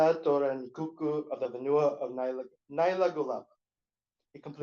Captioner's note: non-english; non-english